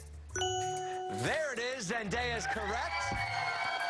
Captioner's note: cheers and applause